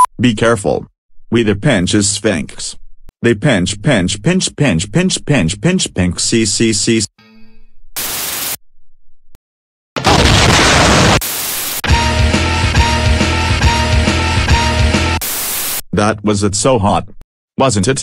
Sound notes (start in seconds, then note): 8.0 Windows 7 Error Sounds; 10.0 explosion